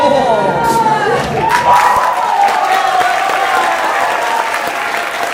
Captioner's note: applause